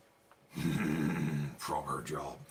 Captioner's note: grunting